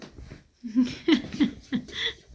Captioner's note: laughing